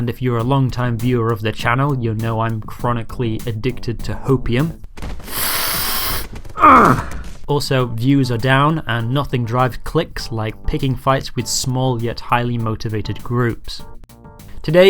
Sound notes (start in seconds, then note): 5.2 sniff